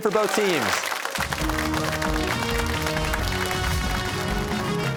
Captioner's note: cheers and applause